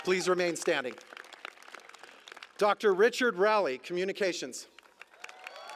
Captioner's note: applause